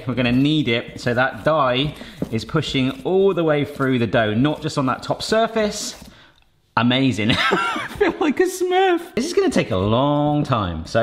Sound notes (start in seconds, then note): 7.3 laughs